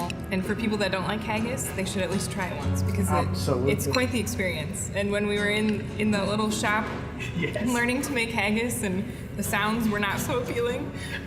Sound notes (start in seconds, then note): 7.2 laughing